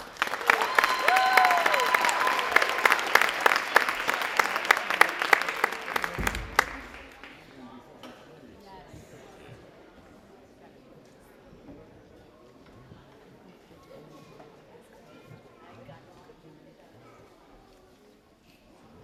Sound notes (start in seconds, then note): 0.0 audience applauding and cheering; 7.5 audience chattering